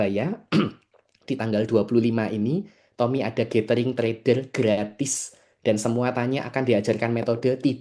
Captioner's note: berdehem